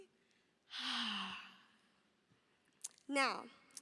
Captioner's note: exhales loudly